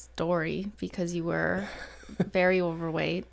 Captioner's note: laughs